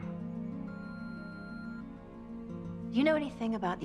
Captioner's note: phone beeps